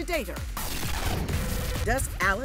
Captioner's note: static glitching